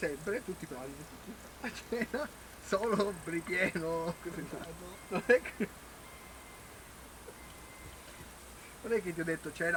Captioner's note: laughter